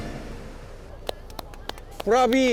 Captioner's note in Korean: 짝짝짝짝